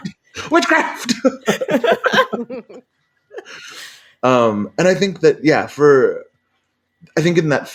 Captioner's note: laughs